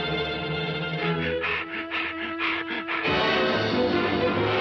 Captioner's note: Petey panting; dramatic music continues